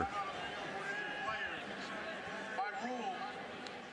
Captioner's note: pa announcement